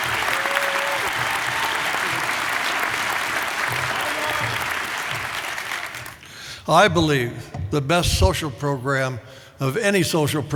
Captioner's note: applause